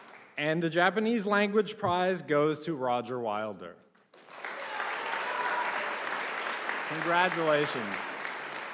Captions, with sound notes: And the Japanese Language Prize goes to Roger Wilder. (audience applauding) Congratulations.